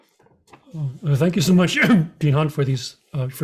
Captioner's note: coughs